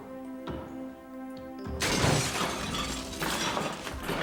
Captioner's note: crash